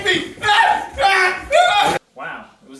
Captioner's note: Haman screams as he is led away